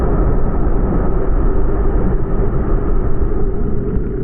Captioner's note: undersea sounds